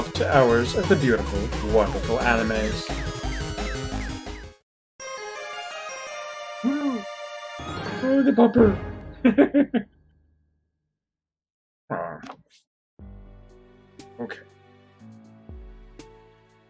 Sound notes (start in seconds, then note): 5.0 friendship fanfare; 9.2 laughs